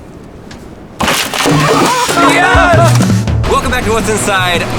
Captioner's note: surfboard cracking; yelling